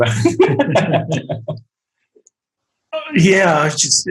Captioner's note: group laughing